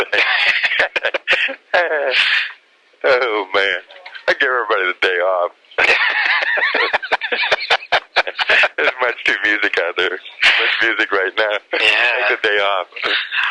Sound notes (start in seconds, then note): 0.0 both laugh; 5.8 both laugh